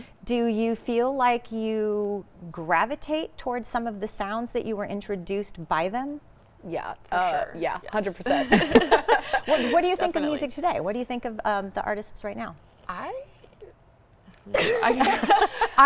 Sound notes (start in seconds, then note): 8.2 girls laugh; 14.5 laughs